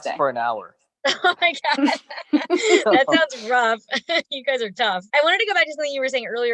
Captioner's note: chuckles